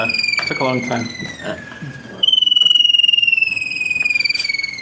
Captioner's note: bird song